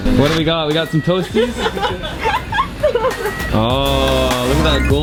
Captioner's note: laughing